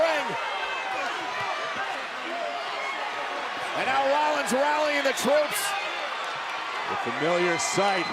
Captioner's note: applause